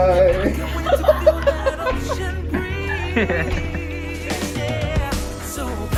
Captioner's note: laughing